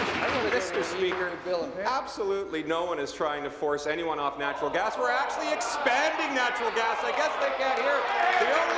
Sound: applause

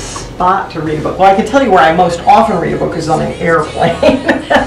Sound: laughter

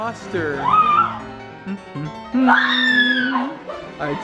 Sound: screaming

